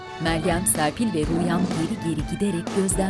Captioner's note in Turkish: Kükreme sesleri